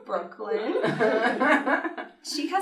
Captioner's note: laughter